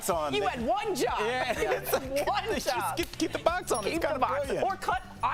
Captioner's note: laughter